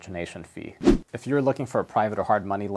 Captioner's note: air whooshes